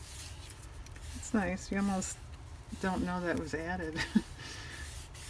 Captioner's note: laughs